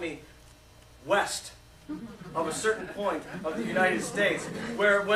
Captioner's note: laughter